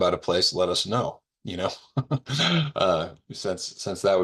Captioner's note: professor laughing